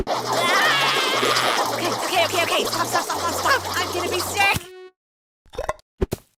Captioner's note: screams